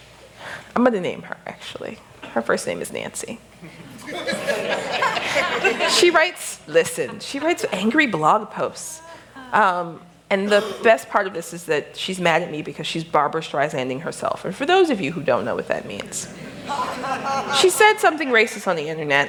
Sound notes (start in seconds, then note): 3.6 laughter